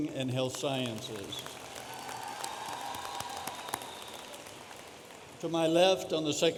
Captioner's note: audience applauding